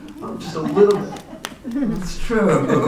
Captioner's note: laughter